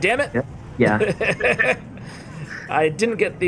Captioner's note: laughs